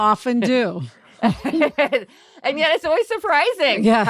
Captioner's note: laughs